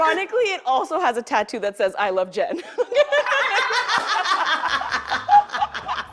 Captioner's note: laughter